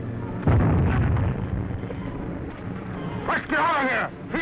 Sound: explosion booming

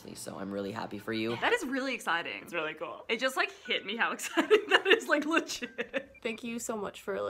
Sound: laughing

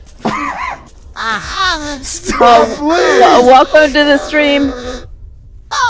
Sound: robotic moaning

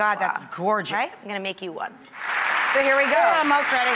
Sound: audience applause

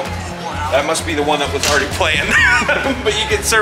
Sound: laughs

